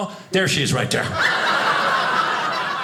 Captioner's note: audience laughing